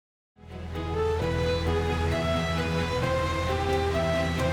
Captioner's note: water rushing